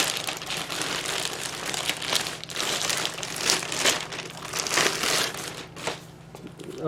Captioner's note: more wrapper noises